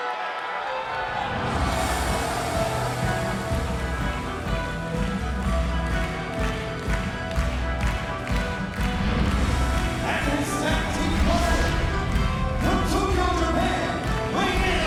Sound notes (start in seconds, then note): 0.3 dramatic music; 6.9 audience clapping